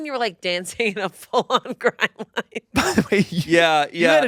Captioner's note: laughs